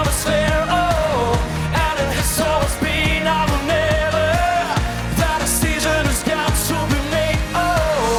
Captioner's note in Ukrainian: оплески